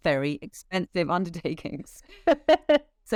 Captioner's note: both laugh